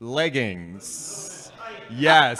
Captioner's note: murmurs from crowd